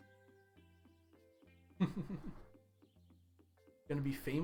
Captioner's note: chuckles